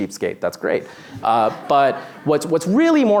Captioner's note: laughter